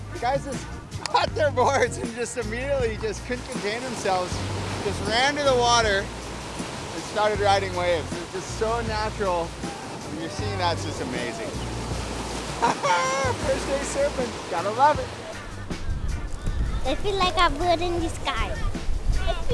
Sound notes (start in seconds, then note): 12.4 laughs